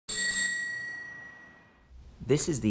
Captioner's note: bicycle bell rings